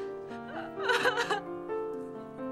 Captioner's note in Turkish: Ağlıyor